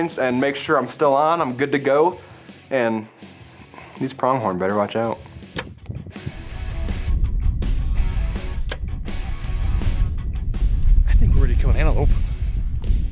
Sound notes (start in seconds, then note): 5.8 bow twangs; 5.8 lively music